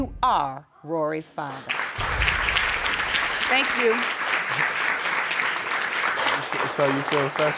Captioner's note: audience applauding